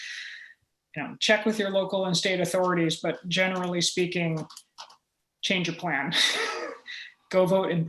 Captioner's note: chuckle